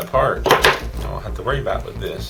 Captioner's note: bang